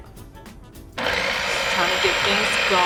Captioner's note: blender whirring